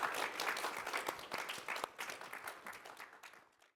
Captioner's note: audience applauding